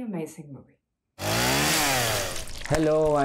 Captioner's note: chainsaw sound